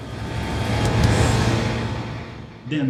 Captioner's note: engines revving, cars noises